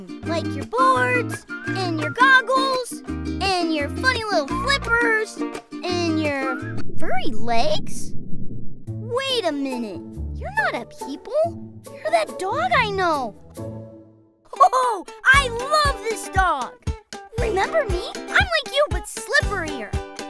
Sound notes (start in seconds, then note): 14.4 laughing